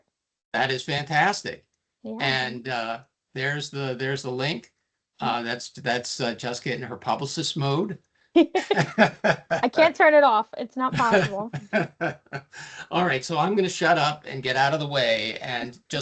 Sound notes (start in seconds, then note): 8.6 laughing; 10.9 laughing